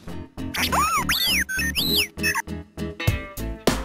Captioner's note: R2D2 happy noises